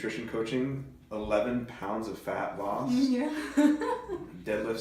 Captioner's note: giggling